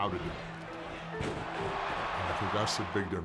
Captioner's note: crowd cheering